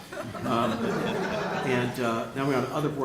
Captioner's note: laughter